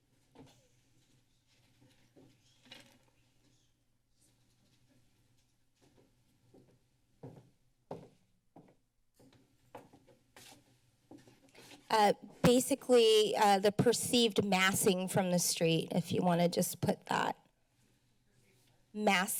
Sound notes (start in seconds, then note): 0.2 silence; 7.1 footsteps